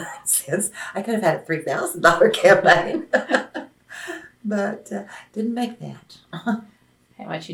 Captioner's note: laughs